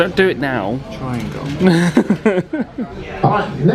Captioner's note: laughs